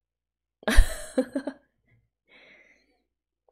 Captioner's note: laughs